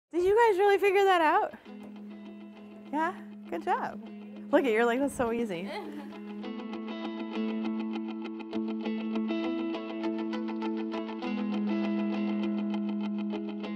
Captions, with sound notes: - Did you guys really figure that out? Yeah? Good job. Look it, you're like, "That's so easy." (youth laughing) (bright music)